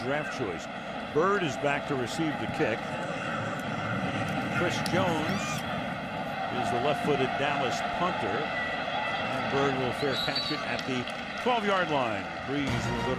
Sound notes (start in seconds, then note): 3.7 pa announcement